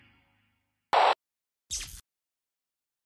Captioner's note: pleasant electronic music; static crackling; electricity buzzing